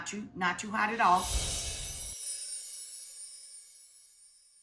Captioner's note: bells chiming